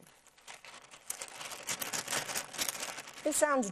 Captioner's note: wax paper rattling